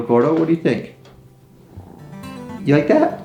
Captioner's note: Gordo purring